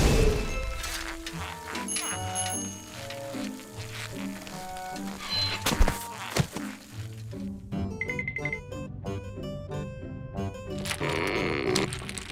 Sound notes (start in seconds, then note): 1.9 bicycle bell rings